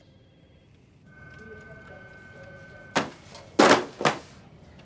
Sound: phones ringing

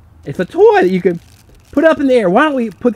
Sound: voiceover

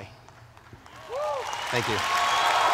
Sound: applause

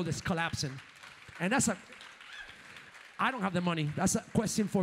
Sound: audience applauds

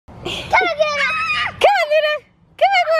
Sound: kids yelling

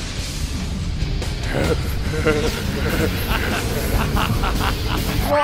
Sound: aroused giggles

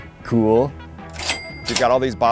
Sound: cash register caching sound effect

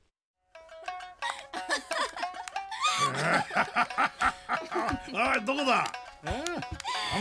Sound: laughs

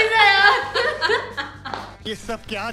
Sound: laughing

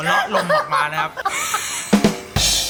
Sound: wheezer laughing

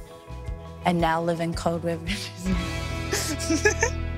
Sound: laughs

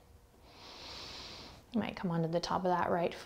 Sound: heavy breathing

